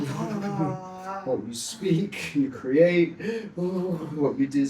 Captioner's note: humming